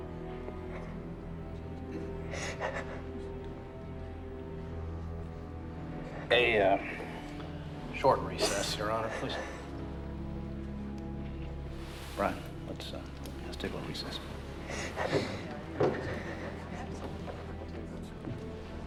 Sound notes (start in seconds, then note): 0.1 sobs; 14.0 cries